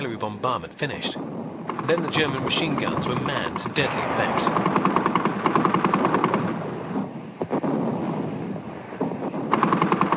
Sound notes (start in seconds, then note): 5.4 guns firing